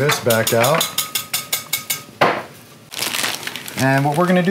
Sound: clinking

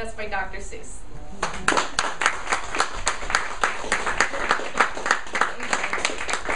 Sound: audience applauding

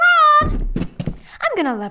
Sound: footsteps

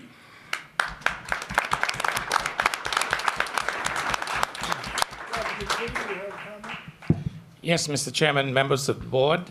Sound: applause

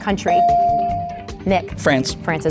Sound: bell dinging

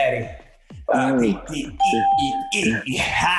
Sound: hums

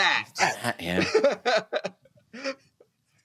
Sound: laughs

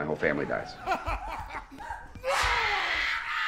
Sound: laughing; screaming

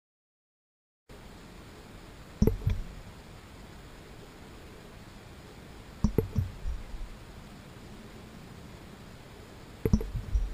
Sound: sound of sea and droplets

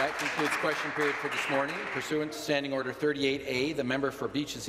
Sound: applause

